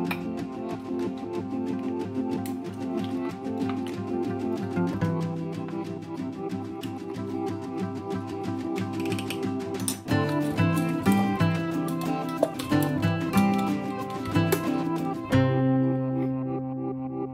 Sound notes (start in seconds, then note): 5.9 acoustic music fades out; 5.9 wooden spoon tapping